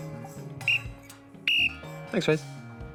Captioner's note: blows whistle